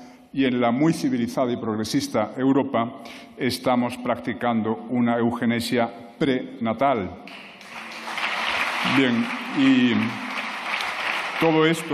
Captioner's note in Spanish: Aplausos